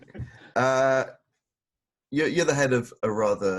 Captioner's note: laughs